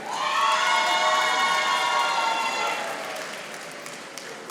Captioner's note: audience applauding